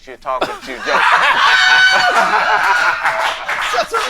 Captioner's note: laughing